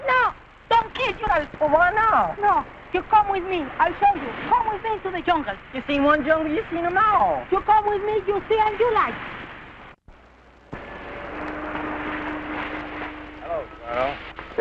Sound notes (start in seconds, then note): 9.6 soft instrumental music; 11.8 men faintly chattering